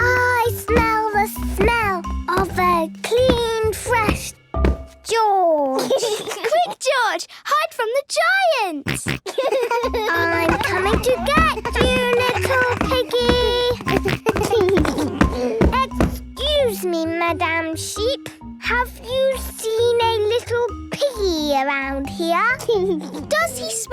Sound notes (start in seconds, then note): 8.8 giggles, snorts; 13.4 giggles